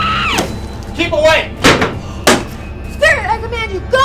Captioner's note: chair banging